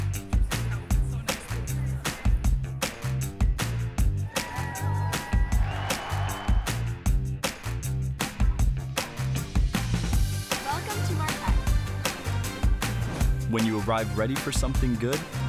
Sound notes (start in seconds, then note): 4.2 girls cheering; 4.2 crowd cheering